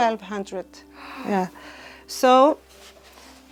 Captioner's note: gasps